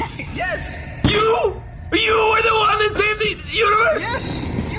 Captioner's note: hits table and shouts